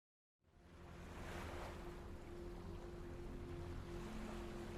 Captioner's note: ocean water spatters